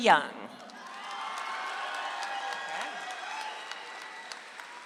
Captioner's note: audience applauds